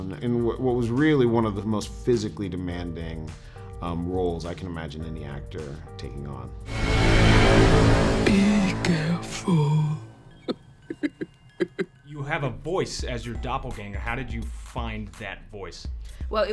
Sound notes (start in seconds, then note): 6.8 suspenseful music; 10.3 creepy laughing